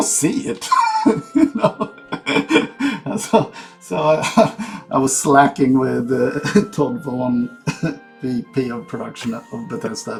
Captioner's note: laughs